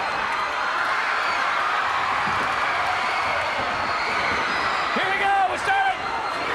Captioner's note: crowd cheering